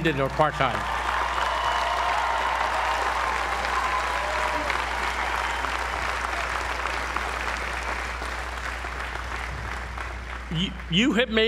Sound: applause

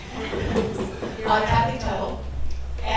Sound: audience laughs

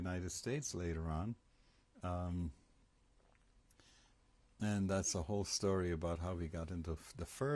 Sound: pauses for 3 seconds

